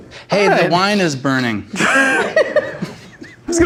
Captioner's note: laughs